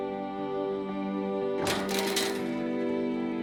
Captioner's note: clanging